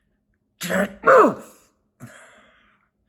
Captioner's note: Chuck grunts